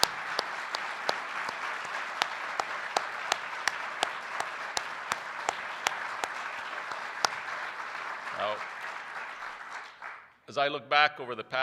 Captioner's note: applause